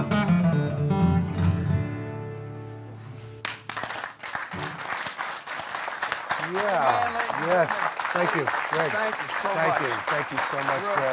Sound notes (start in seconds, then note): 1.7 applause